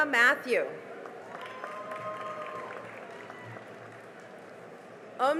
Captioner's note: cheering and applause